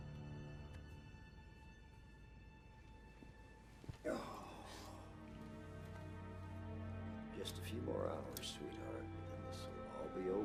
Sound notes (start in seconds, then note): 4.0 Jason groaning